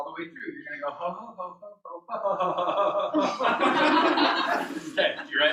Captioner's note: laughter